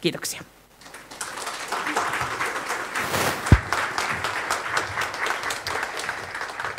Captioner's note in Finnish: Aplodeja